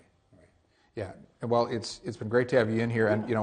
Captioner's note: voiceover